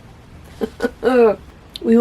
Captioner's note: wry laughter